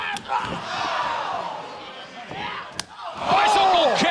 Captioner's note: crowd exclaiming